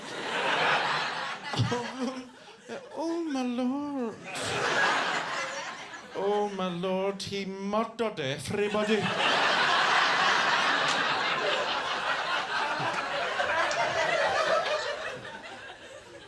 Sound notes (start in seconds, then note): 0.0 audience laughs; 4.2 audience laughs; 8.6 audience laughing